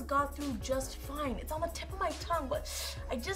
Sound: inhales sharply

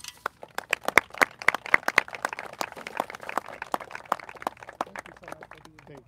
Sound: applauses

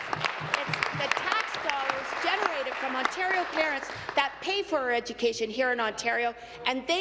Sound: applause

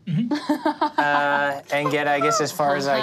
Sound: laughing

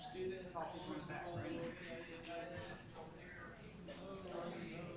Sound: group chatter

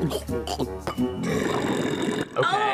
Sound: Garfield gulps; Garfield burps

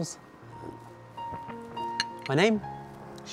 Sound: slurping and glass clinking

